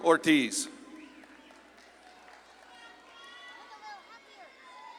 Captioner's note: audience claps and cheers